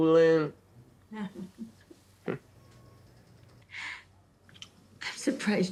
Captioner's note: Ms. Odell laughs